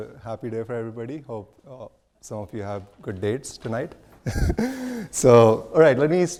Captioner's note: laughs